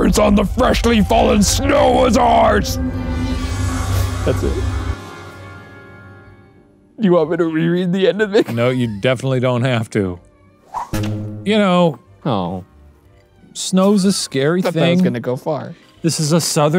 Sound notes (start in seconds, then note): 3.2 normal voice; 8.2 laughs; 10.9 spring sound; 13.0 laughs